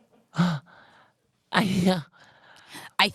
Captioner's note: confused noises